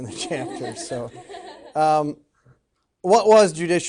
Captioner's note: students laughing